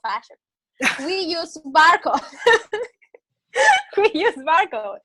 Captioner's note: laughs